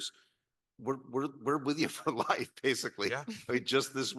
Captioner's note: chuckles